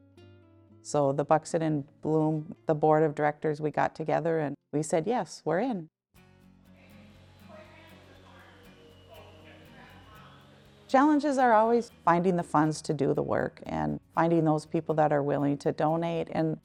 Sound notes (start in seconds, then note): 7.2 vacuum swooshing; 8.3 workers chatting